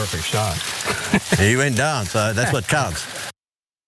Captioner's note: laugh